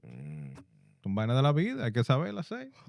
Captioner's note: non-english Speech